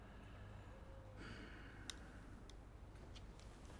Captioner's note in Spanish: suspira